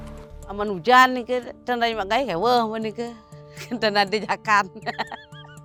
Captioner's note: speaking foreign language